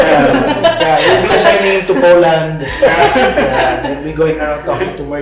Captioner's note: laugh